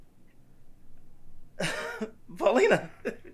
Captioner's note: George giggling